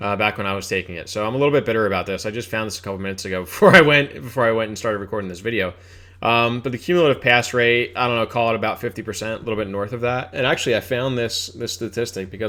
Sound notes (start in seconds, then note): 3.6 laughs